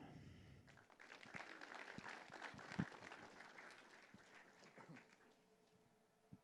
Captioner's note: applause